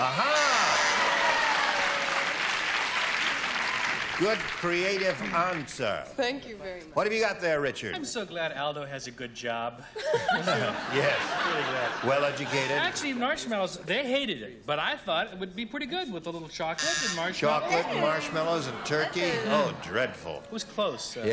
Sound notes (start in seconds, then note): 0.9 applause; 9.8 laughter